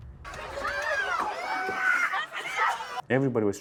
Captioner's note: people screaming